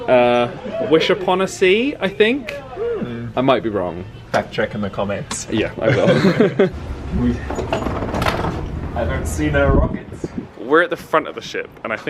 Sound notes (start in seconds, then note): 5.7 they laugh